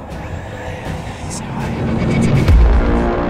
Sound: faintly whispers; ominous music

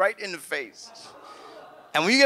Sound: audience laughs

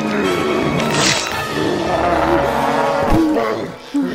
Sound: blood splatters; lizard fish grunts

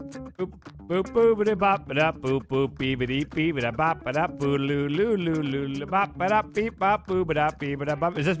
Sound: bad beatboxing

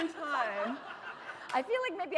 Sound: laughter

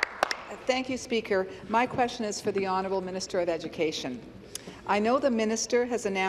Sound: applause

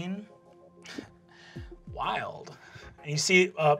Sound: scoffs

